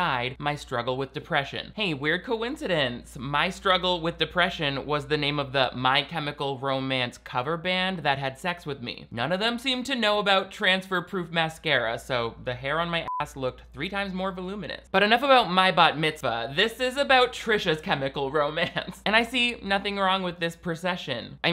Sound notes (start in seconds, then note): 13.0 beep